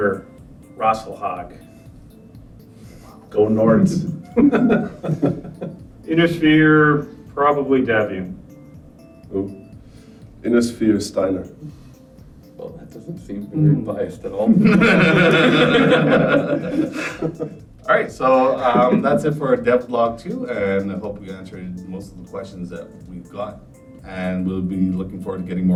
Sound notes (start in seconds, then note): 14.5 all laugh